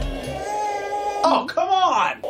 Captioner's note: cries